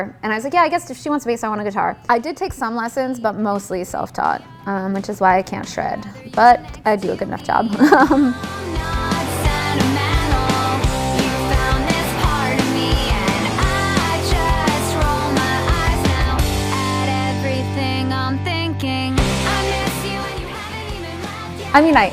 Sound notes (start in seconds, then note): 7.5 laughs; 8.6 pop punk music